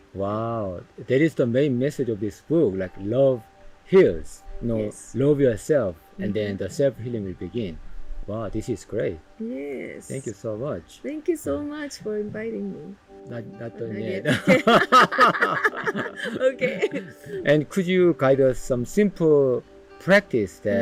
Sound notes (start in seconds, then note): 14.2 laughter